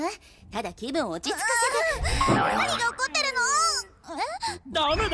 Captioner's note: boing!